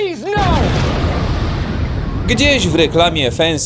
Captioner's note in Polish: boom!